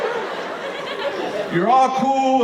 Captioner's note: audience laughing